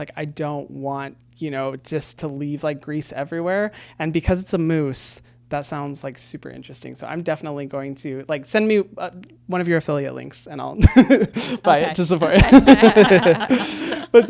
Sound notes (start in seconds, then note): 12.2 laughs; 12.3 everyone laughing